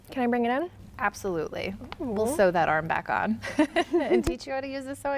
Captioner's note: laughing